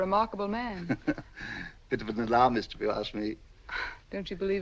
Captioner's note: chuckles